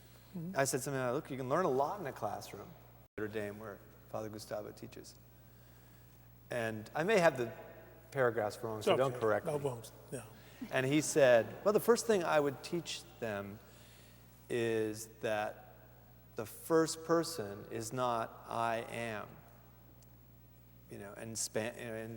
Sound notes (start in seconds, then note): 10.6 laughter